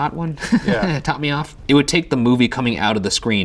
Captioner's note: laughs